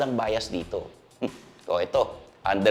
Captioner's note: scoffs